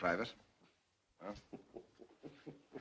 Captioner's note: chuckles